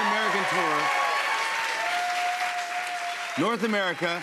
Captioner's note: cheers and applause